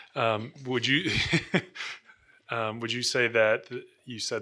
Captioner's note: laughing